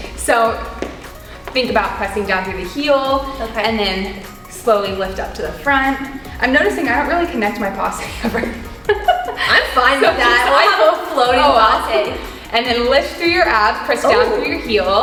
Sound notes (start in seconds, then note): 8.0 both laughing